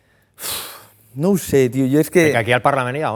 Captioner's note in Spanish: suspira